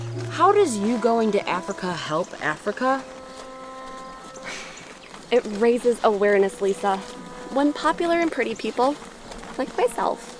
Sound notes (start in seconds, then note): 4.4 sighs